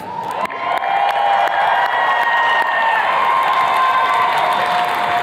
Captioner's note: attendees cheers and claps